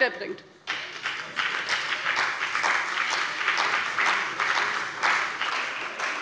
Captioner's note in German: Beifall bei dem BÜNDNIS 90/DIE GRÜNEN und der CDU